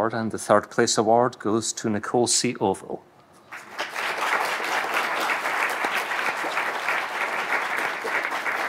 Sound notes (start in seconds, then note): 3.5 audience applauding